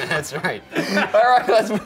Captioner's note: Shane laughing